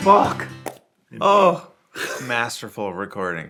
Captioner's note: exclaims